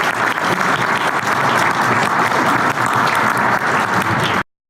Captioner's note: audience clapping